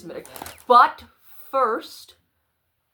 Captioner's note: flappy book noises